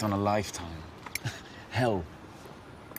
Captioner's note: chuckles